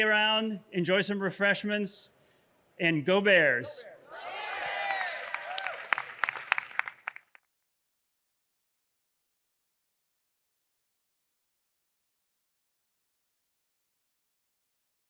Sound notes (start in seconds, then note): 3.8 crowd; 5.8 everyone cheering